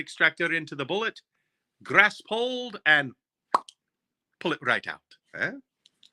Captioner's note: popping